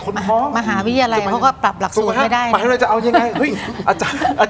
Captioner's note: laughs